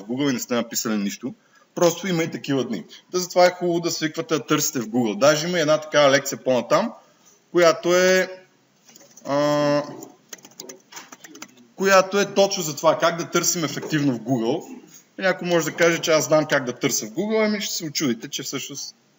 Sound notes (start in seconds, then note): 8.9 types on the keyboard